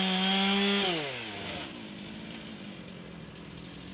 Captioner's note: chainsaw buzzing